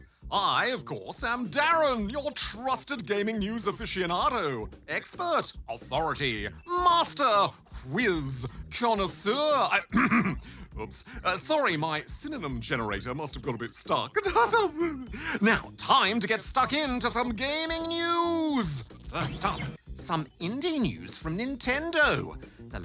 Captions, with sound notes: I, of course, am DARREN, your trusted gaming news aficionado, expert, authority, master, whiz, connoisseur... (CLEARS THROAT) Oops. Uh, sorry - my synonym generator must have got a bit stuck. (LAUGHS) Now, time to get stuck into some gaming news! First up, some indie news from Nintendo.